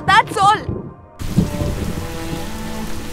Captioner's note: Rain pattering